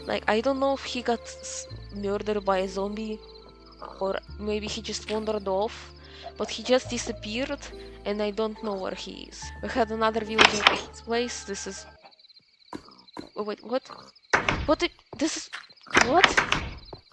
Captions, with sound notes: like, i don't know if he got s- murdered by a zombie, or maybe he just wandered off, but he just dissapeared, and i don't know where he is. we had another villager in his place, this is... . _ . wait, what? *sounds of pure confusion*